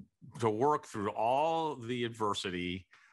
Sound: none

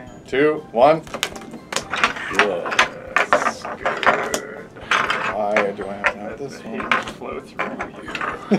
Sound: whispering

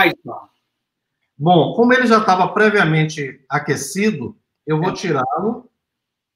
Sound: speaks portuguese

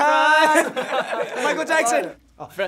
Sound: laughing

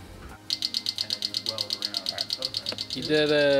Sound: pins clicking

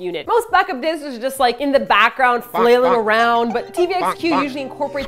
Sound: so many bonks

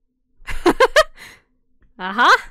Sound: laughs

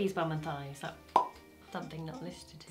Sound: mouth popping

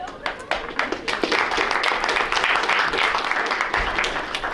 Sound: audience clapping

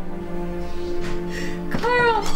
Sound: door opens

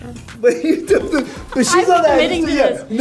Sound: chuckles

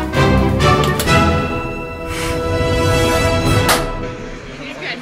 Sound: touchpad clicks; hands slapping

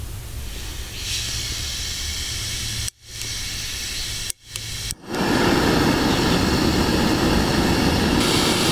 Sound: sound of starting gas and igniting the stove

